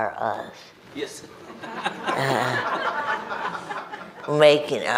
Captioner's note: everyone laughs